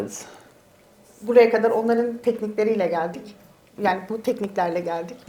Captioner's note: speaks in Turkish